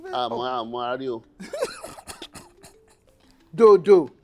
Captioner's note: laughs